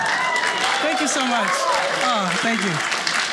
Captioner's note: audience cheers